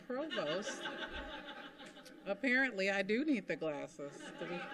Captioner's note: laughter; laughter